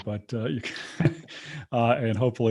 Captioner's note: laughter